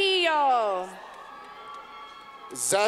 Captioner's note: clapping